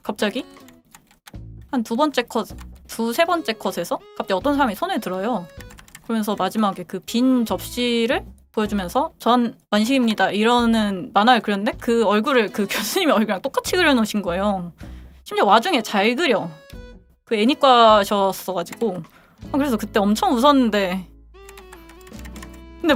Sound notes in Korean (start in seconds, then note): none